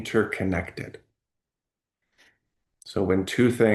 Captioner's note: pause